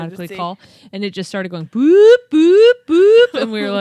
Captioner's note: imitates alarm blaring